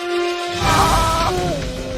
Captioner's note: yells; yells in slo-mo